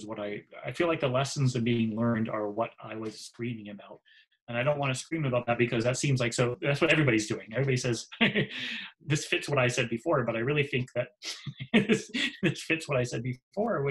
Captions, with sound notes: what, I feel like the lessons that are being learned are what I was screaming about. And I don't wanna scream about that because that seems like that's what everybody's doing. Everybody says, (laughs) "Hey, this fits what I said before." But I really think that it fits what I said before,